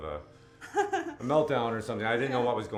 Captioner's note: laughter